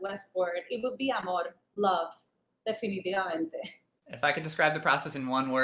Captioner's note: speaks Spanish